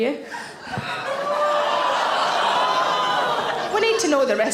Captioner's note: audience gasping